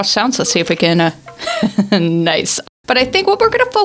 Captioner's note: skeleton noise